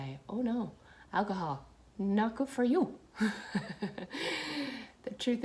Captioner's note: laughs